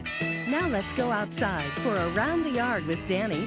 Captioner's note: voiceover